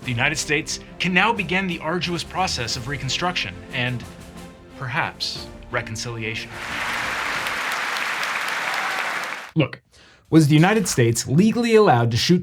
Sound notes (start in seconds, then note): 6.4 audience applauds